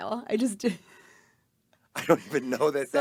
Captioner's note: laughing